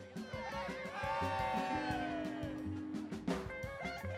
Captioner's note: cheering